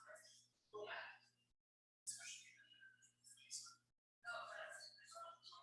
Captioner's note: people chattering indistinctly